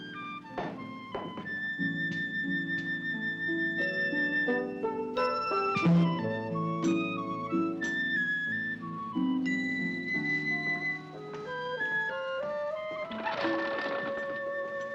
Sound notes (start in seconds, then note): 0.0 upbeat music; 0.5 feet thump; 1.8 upbeat music; 13.0 window rattles